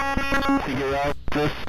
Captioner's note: glitching noise